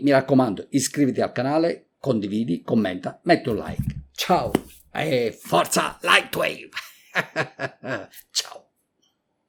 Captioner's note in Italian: risate